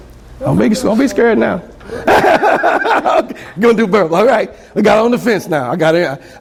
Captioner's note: laughs